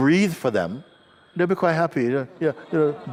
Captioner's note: laughter